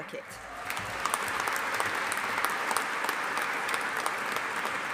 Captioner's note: audience applauding